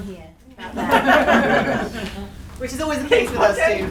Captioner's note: laughing